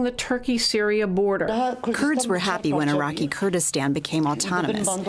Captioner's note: through translator